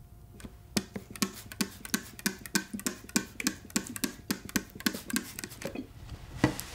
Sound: sounds of a camera taking a picture; sounds of a water bottle spraying a table; sounds of cleaning the table with a rag

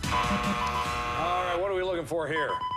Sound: buzzer

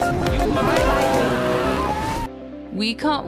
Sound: screaming

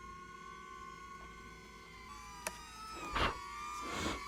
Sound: sound of a neo-drone flying next to me

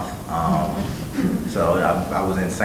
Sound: laughing

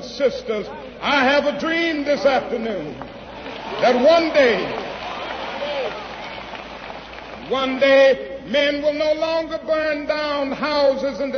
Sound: applause

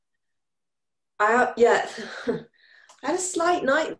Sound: sighs

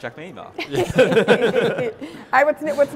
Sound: group laughing

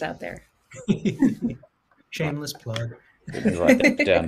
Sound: laughs

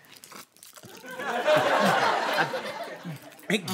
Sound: slurping

